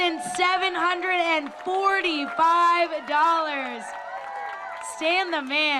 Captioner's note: applause, cheering